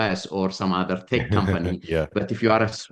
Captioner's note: laughs